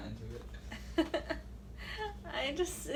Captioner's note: laughs